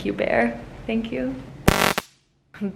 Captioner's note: stungun buzzes